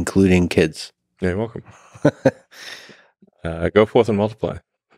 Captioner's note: laughs